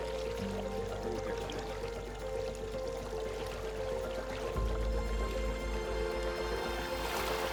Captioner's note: gentle acoustic music; water gurgling